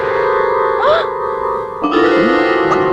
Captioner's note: gasps